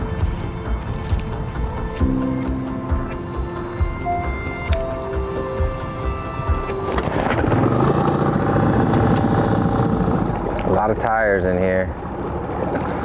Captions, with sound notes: (engine whirring) A lot of tires in here.